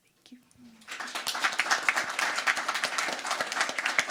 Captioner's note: crowd applauding